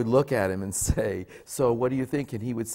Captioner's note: laughs